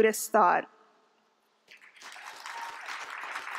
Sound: applause

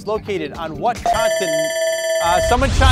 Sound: tone beeping

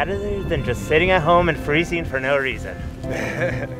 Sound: laughs

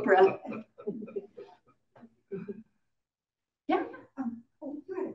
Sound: audience laughing

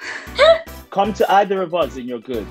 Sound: laughs

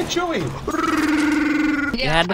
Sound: chewbacca cry

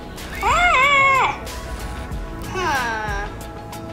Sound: screams

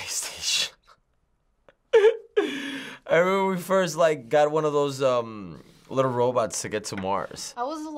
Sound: chuckles

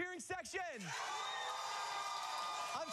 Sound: cheers and applause

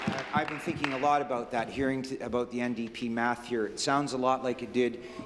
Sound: applause

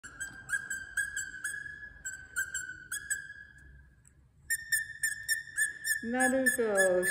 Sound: high pitched squeak/crying noises

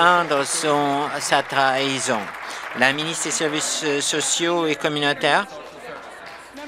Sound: applause

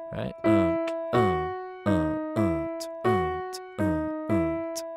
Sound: hums and beatboxes melody

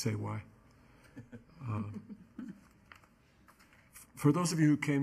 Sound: people chuckling

